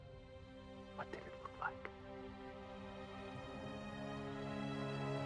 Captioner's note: none